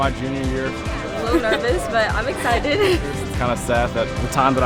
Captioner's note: laughs